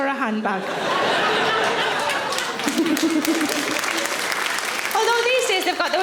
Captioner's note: audience laughing; audience applauds